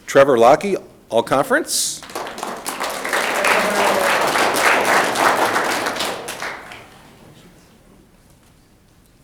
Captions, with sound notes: Trevor Locke, All-Conference. (audience clapping)